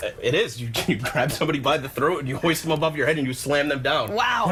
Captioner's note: laughter